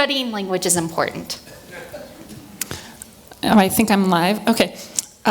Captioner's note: laugh